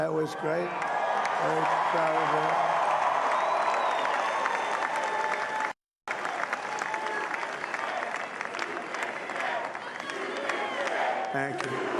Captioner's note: applause